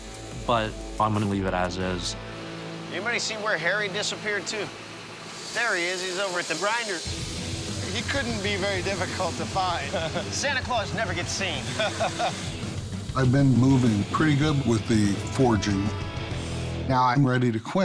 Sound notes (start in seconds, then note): 11.5 laughs